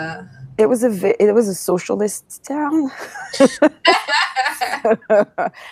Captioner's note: laughs